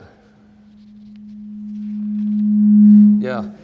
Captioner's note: microphone humming